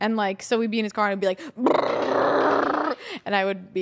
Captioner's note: imitates rattling